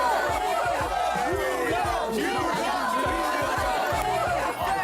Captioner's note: Everyone shouting "New York" together all of a sudden